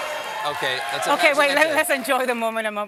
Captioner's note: cheering